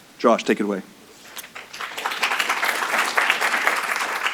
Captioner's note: applause